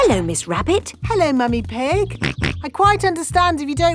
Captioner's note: snorts